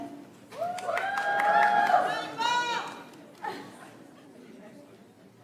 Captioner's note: audience applauds